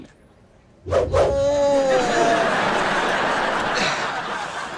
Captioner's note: audience laughter